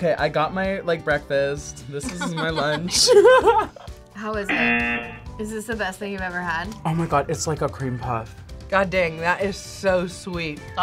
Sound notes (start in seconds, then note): 2.1 laughs; 4.5 buzzer